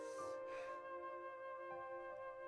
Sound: takes deep breath

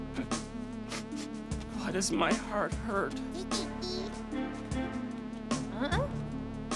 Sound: sobbing

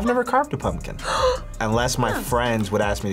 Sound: gasps

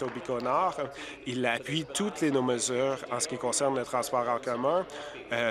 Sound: applause

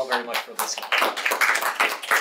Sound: audience applauding

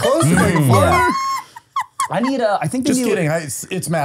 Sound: laughing

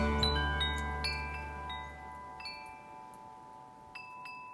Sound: wind chimes

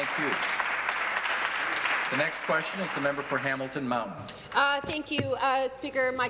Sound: applause

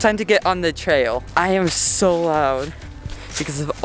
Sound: crunching

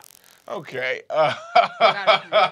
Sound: laughs

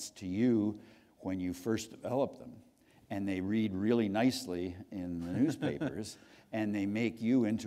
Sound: chuckle

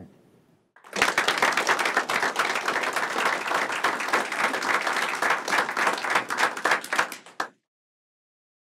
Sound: applause

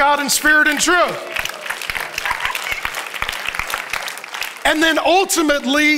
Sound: audience applauds

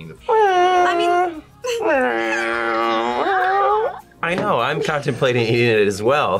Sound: meows along; meows

